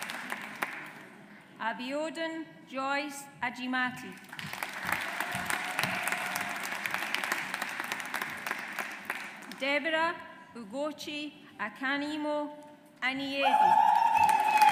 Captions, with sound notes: Abiodun Joyce Ajimati. (AUDIENCE APPLAUDS) Deborah Ugochi Akanimo-Aniedi. (AUDIENCE APPLAUDS)